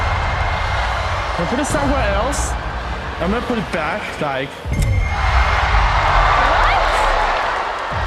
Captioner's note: cheering